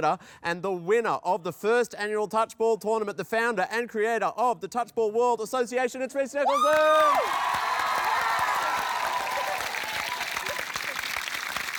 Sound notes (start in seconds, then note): 6.4 cheering, applause